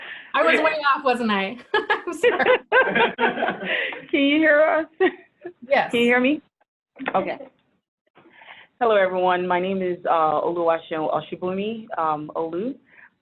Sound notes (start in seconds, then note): 0.0 people laughing; 1.7 people laughing; 2.0 laughs; 5.3 laughs; 11.1 foreign language